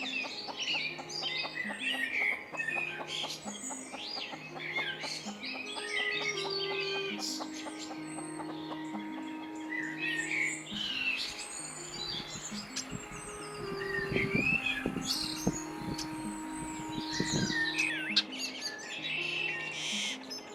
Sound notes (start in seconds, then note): 5.7 Muriel clucks; 14.1 wind blows in grass